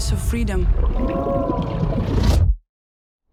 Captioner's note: eerie moans